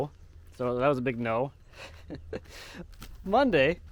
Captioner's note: chuckling